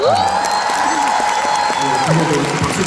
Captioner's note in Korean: 박수